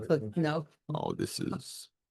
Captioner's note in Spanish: hablar en voz baja